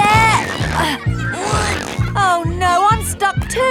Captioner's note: grunting